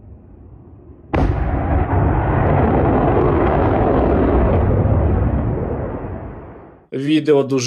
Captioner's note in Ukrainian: звук запуску ракети